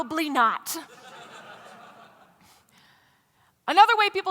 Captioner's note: laughter